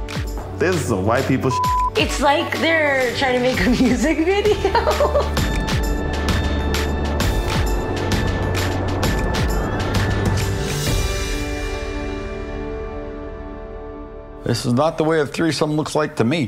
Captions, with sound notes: - This is some white people s**t. - It's like, they're trying to make a music video. (laughing) (smooth music) - This is not the way of threesome looks like to me.